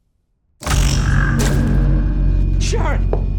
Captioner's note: loud buzz